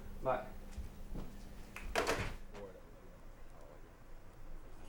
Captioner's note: phone hanging up